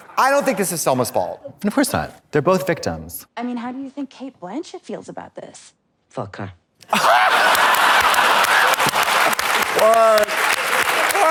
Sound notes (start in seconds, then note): 6.9 blonde Women hee-haw; 6.9 audience erupts